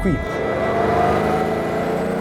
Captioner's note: engine RPM grow